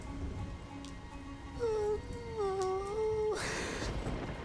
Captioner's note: sobs